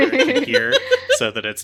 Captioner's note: laugh